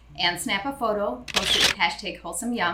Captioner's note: camera click